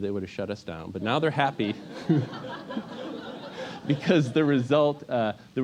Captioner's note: laugh